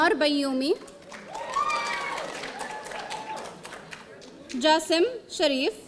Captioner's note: audience cheering